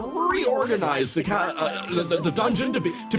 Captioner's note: Ganglion Noises